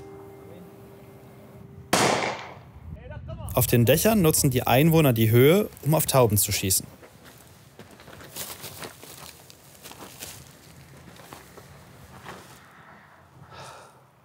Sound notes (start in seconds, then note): 7.7 crunching noises